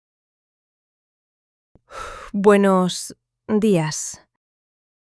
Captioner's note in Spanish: suspiro